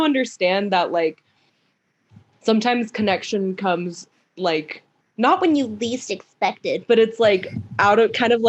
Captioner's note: nasal pitched voice